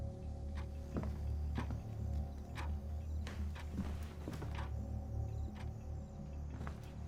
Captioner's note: footsteps tapping; clock ticking